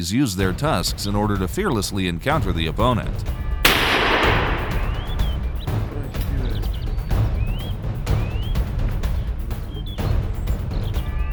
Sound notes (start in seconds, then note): 3.6 gunshot; 6.7 dynamic music